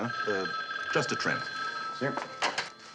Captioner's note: phone ringing